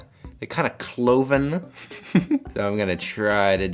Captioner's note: chuckles